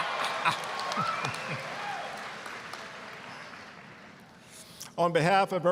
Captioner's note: audience cheering